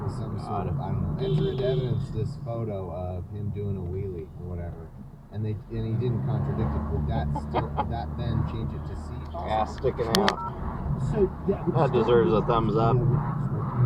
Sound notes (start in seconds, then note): 1.2 beepBeepBeep!